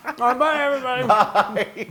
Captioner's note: laugh